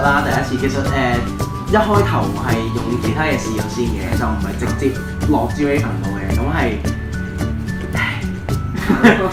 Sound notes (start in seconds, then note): 8.0 sigh